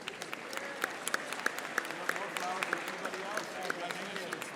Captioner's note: audience applauding